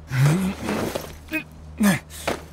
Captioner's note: straining effort